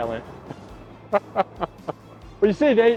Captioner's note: laughing